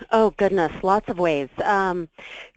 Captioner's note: voiceover